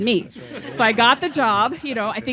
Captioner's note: laughs